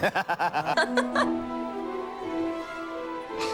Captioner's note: laughs